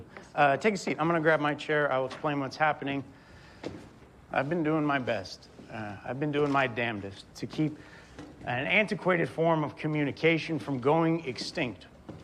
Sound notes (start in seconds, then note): none